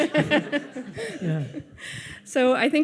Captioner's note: audience laughs